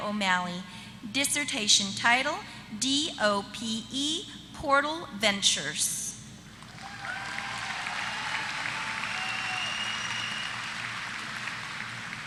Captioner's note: applause